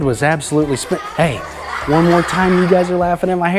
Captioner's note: children laugh